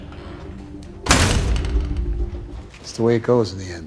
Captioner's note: door slams